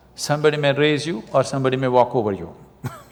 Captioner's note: laughs